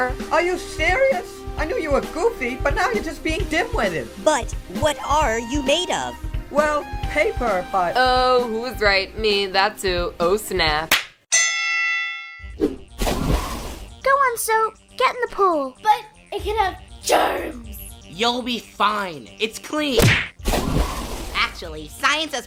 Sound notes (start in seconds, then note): 10.9 smack; 11.3 fighting Bell; 13.0 splash